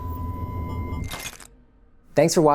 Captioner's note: glass cracks